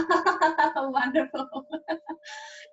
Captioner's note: laughs